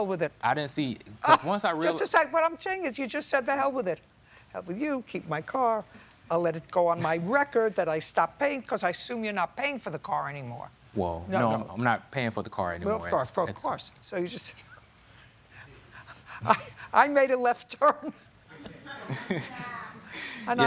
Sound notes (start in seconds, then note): 16.0 laughing; 18.5 laughter